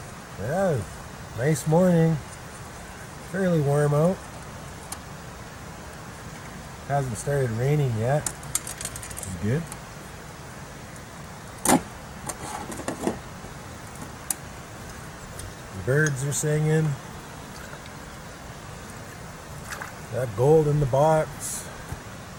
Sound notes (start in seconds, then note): 6.7 creek with forest sounds